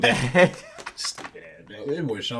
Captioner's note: laughing